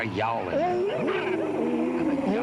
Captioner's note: all yowling